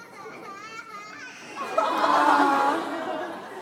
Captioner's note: audience applauds; baby crying; audience laughs